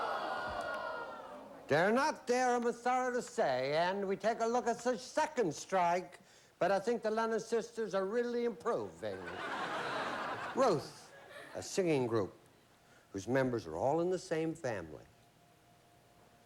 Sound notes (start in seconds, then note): 1.4 imitating lawrence welk; 10.1 regular voice